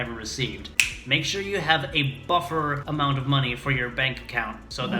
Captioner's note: snaps